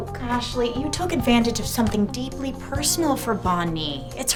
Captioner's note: none